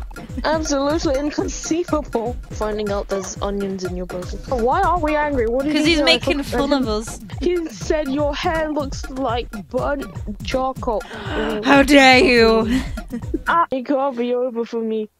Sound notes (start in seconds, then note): 11.0 dramatic gasp